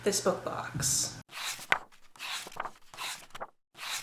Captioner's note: pages turning